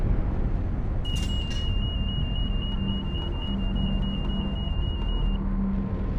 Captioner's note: alarm sounding